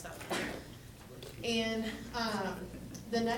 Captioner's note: coughing